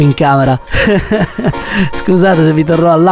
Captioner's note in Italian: risate